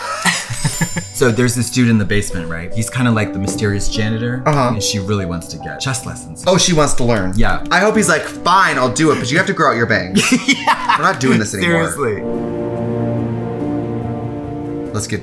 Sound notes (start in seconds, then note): 0.0 laughs; 10.1 laughs; 13.0 dramatic music